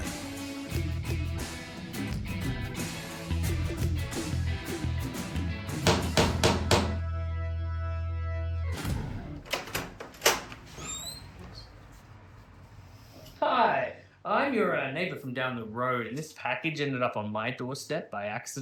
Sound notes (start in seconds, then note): 0.0 rock music continues; 5.8 knocks on door